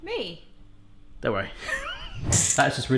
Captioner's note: laughs